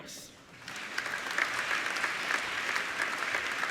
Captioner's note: applauding